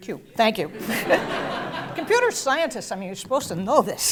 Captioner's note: laugh